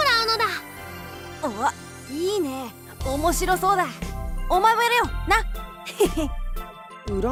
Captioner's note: chuckle